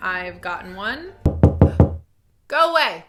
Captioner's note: someone knocking at the door